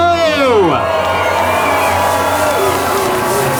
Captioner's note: cheering